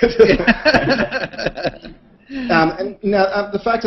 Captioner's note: laughter